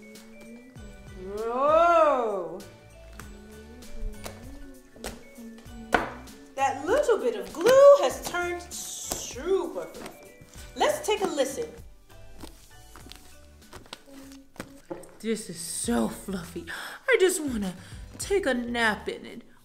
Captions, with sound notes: Whoa. That little bit of glue has turned super fluffy. Let's take a listen. (smushing) This is so fluffy. I just wanna take a nap in it.